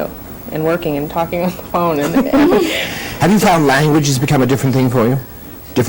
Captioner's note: laughter